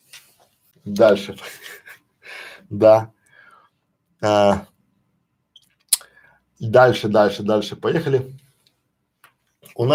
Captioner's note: Смеется